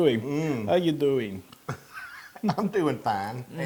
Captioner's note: laugh